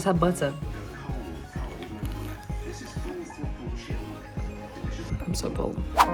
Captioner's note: TV blaring in the background